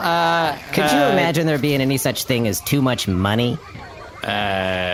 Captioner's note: confident